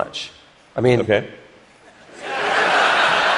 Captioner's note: laughter